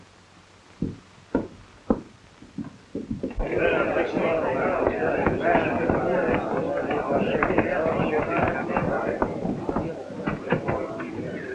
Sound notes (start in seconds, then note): 3.7 crowd murmuring